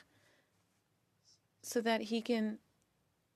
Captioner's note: speaking French